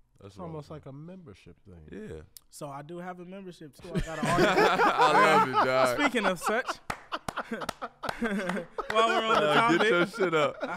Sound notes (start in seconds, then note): 5.0 laugh; 8.0 laughs